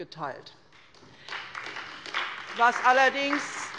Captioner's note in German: Beifall bei der SPD und bei Abgeordneten des BÜNDNISSES 90/DIE GRÜNEN